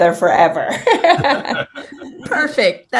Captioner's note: laughing